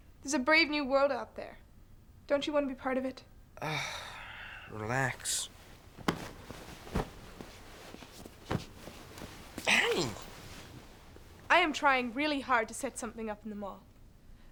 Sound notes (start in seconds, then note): 3.6 sighs